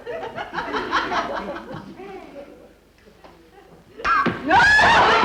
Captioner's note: audience laughter